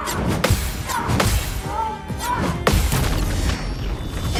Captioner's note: character shouting; blows landing